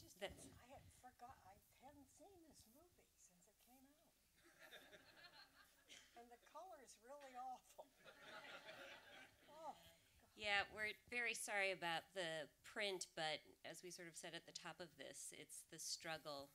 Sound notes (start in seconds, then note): 4.5 light audience laughter; 8.1 audience laughter